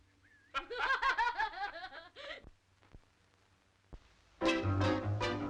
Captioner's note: Joe and Gerald laughing; lively jazz music; feet tapping